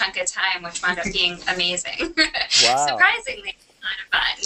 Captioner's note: laughter